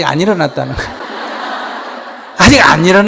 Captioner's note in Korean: 청중 웃음